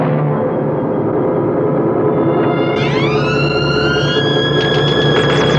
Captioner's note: whirring